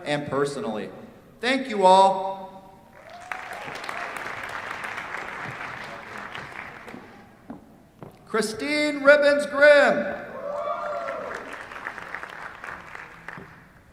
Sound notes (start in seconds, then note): 2.9 applause; 10.3 cheers, applause